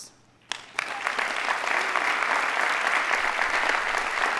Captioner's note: audience applauding